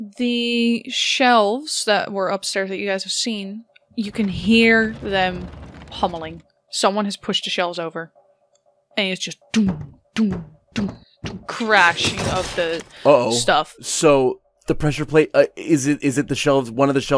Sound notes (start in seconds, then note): 6.8 clunking and crashing; 11.8 heavy thunks, crashing